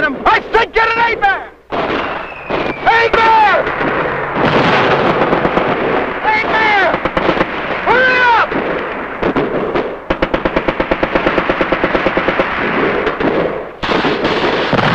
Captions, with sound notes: There's two more up there. You get an aid man back here, I'll go get 'em. - I'll get 'em. - I said get an aid man! - Aid man! (missiles whistling) (explosions booming) Aid man! Hurry up!